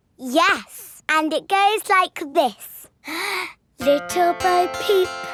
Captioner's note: inhales